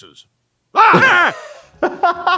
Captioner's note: Dr. Hartman screams; laughs